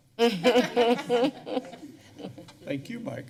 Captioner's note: laughter